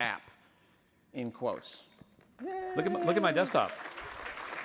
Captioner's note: applause